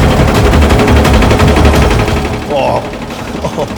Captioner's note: bread slicer whirs